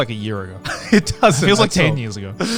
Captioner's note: laughs